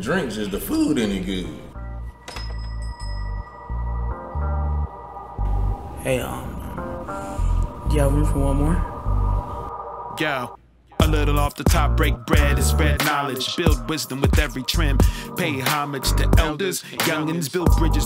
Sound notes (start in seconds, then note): 1.8 door chime ringing